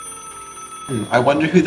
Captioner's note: ring